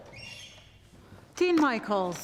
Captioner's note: door creaking